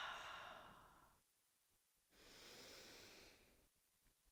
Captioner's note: exhaling